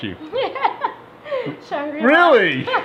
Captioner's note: laughing